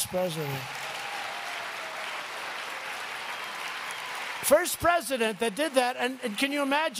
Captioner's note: applause